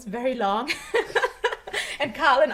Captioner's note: chuckles